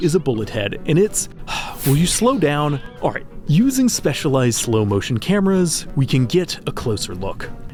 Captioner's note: sigh